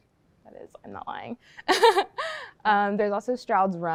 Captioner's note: laughing